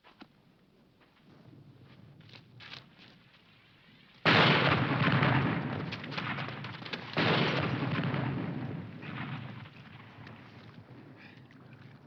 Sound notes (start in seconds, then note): 4.5 bombs exploding